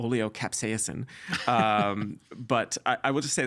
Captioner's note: laughing